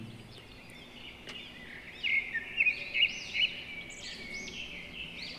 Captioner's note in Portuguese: pássaros cantando ao fundo